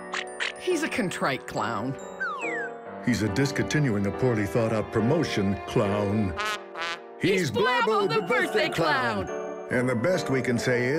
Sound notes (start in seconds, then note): 2.2 slide whistle descends; 6.4 wah-wah honking